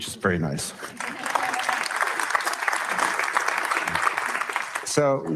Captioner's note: audience laugh and clap